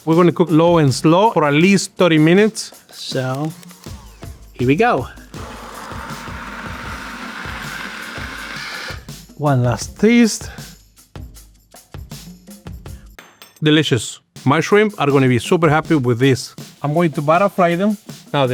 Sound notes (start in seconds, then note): 5.2 blenders whirring